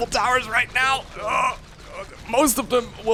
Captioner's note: groans